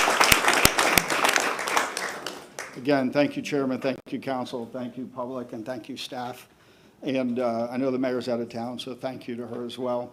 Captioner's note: applause